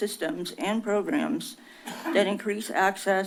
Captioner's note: coughs